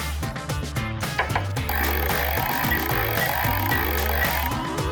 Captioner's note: casino sound effects